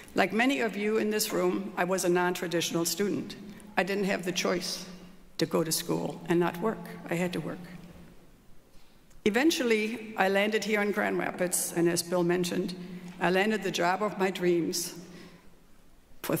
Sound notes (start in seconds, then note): none